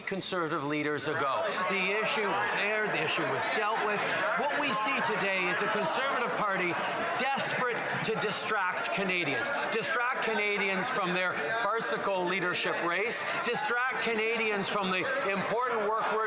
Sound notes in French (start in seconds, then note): 2.5 voix de l'interprète